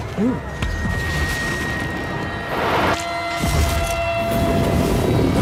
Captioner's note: eerie ringing; fire whooshing